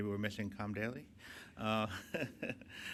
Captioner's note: chuckles